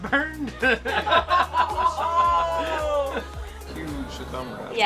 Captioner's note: laughing continues